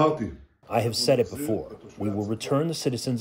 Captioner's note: through translator